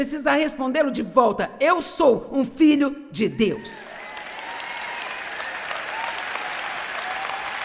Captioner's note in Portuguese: audiência aplaude